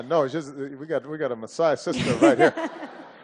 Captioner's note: laughter